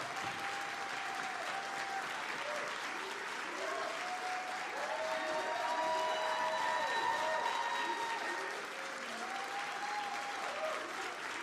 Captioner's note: applause